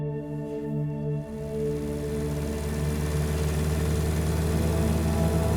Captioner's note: motorcycle engine humming